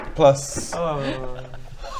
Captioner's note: sigh